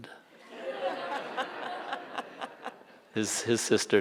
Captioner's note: audience laughing